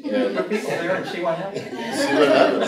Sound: group laughing

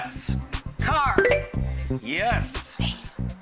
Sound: bell chimes

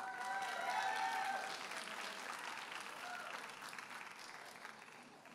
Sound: audience applauding and cheering

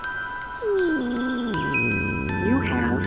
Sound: Broccoli groans

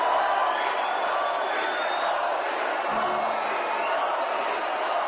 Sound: crowd cheering

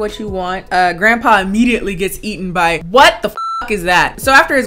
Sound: beep

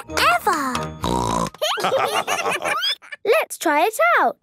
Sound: snorting; laughter

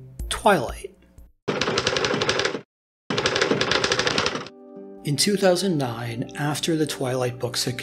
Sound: typing

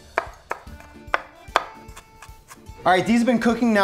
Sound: knife thudding

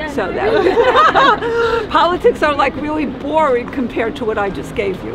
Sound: laughing

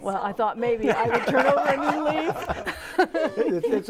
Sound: laughing

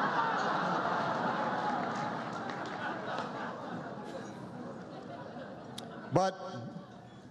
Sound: laughter

